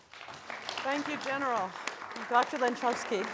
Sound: audience applauding

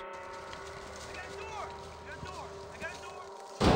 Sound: voiceover

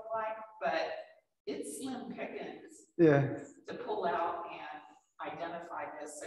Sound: speaks faintly

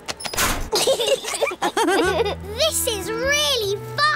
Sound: laughter

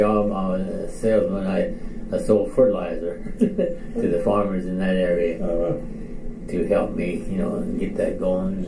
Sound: chuckles

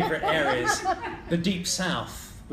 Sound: laughing

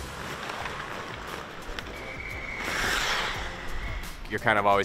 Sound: skates skidding on ice

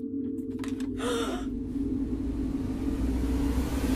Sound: gasps

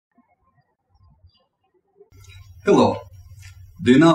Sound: birds chirping

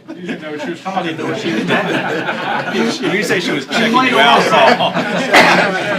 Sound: laughter

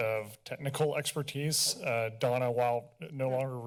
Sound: none

